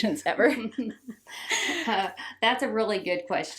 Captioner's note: both laughing